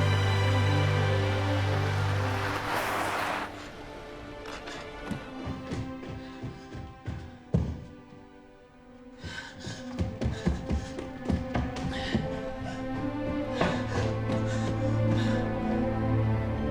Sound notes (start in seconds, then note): 8.8 panting; 12.5 dramatic orchestral music intensifies